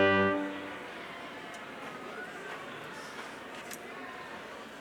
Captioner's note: crowd chattering